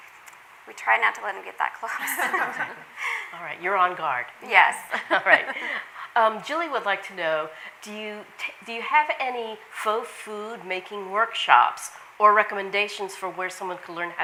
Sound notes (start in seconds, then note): 2.0 all laughing; 5.0 laughs